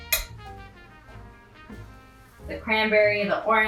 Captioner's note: spoon clinks